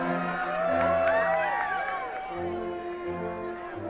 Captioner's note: attendees cheering